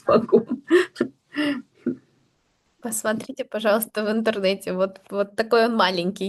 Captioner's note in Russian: смех; тяжело вздыхает